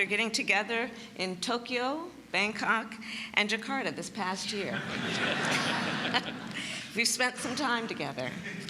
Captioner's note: laughter